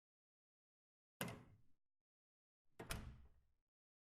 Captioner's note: door opens, closes